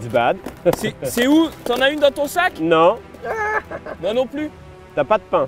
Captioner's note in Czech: mluví francouzsky